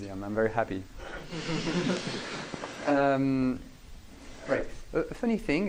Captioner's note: laughing